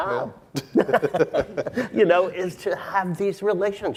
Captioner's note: laughing